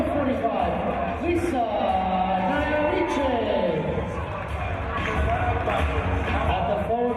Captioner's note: applause